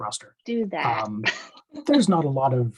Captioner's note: laughs